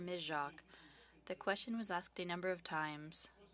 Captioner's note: speaking French